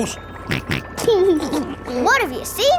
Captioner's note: snorts and laughs